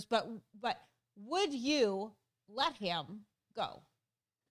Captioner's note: stutters